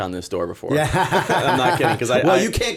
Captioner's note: laughter